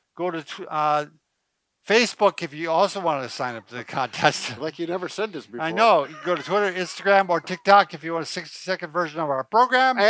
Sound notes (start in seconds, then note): 2.8 laughs